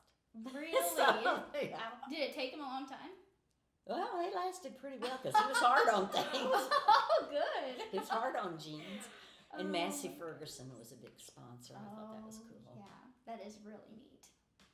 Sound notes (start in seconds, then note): 0.6 laughing; 5.0 laughing